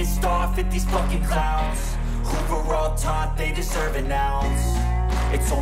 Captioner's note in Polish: Aplauz